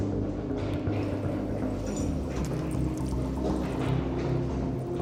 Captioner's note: footsteps approaching